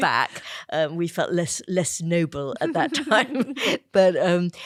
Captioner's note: laughter